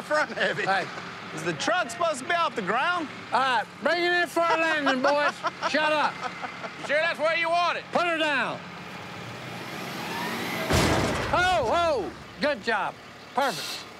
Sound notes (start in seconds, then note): 4.3 laughter; 10.6 thud